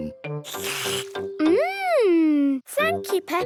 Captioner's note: slurps